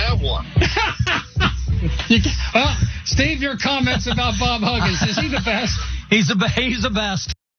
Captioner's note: laugh